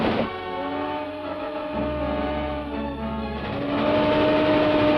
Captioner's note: train whistling